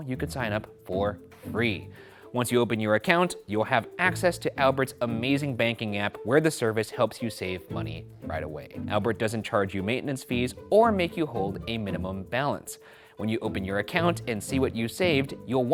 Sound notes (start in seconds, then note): none